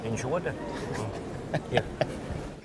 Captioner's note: they laugh